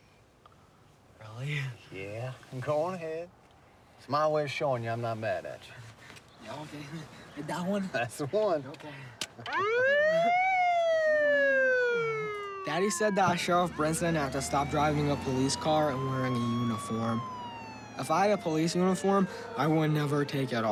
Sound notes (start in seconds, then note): 8.8 siren sound